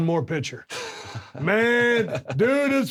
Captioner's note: Drew chuckles